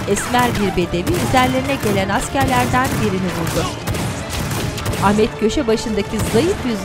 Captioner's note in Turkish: Silah sesleri